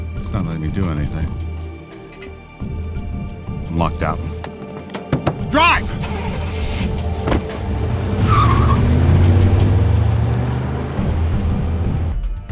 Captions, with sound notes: - It's not letting me do anything. I'm locked out. (hand tapping) Drive! (engine rumbling) (door thuds) (tires squealing)